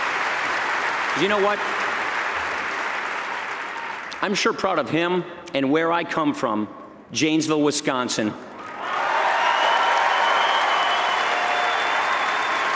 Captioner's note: applause; applause